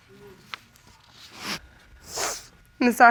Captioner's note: sniffles